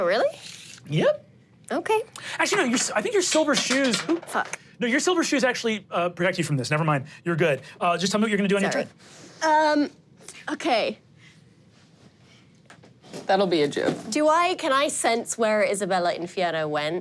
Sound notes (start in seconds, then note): 2.5 dice rolling on the floor